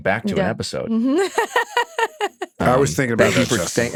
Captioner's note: laughs